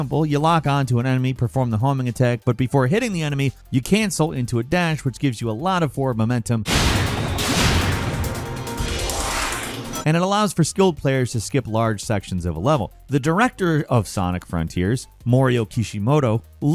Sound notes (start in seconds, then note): 6.6 sonic booms; 9.1 Sonic whooshes